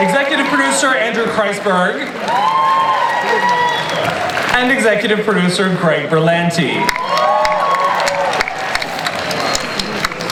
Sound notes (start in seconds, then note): 2.2 audience cheers; 6.8 audience applauds